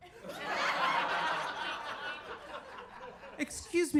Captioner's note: audience laughing